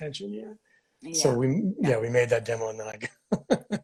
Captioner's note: laughs